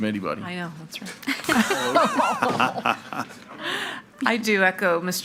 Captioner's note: group laughing